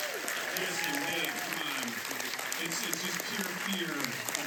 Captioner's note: applause